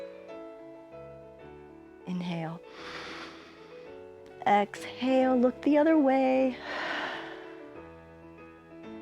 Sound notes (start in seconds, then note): 2.6 inhales; 6.6 exhales